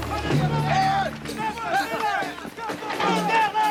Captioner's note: officers yelling